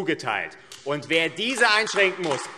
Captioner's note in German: Beifall AfD